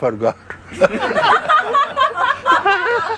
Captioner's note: laughter